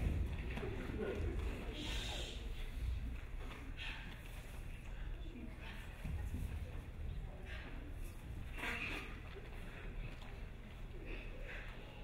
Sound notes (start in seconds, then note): 0.5 crowd shushing